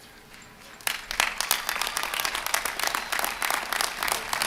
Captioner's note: applause